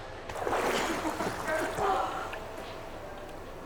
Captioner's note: water splashing